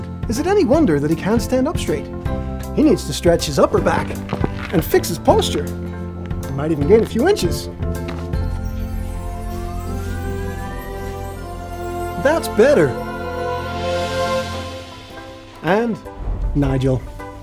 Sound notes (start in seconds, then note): 3.8 back cracking; 8.4 magical music